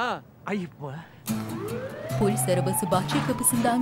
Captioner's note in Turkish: Polis sireni